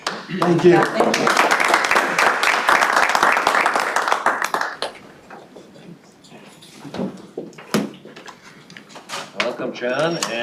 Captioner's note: applause